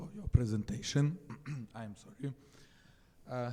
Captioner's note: throat clearing